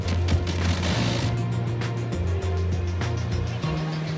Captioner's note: fire blasting